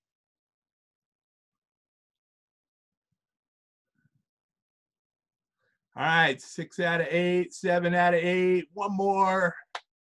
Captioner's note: silence